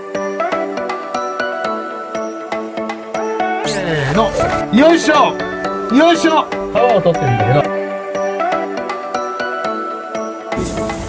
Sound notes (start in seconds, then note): 3.6 staff speak in japanese